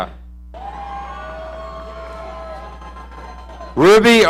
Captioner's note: audience cheering